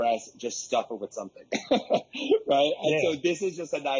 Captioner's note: laughs wryly